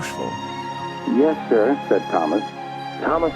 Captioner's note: muffed, through a voice box; muffled, through a voice box